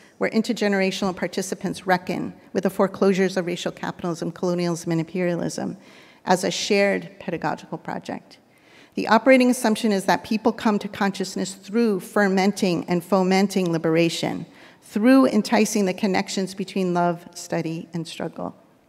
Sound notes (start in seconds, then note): none